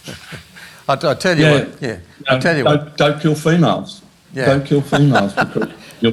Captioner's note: laughs